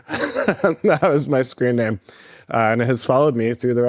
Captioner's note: laughs